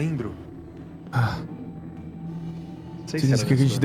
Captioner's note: sigh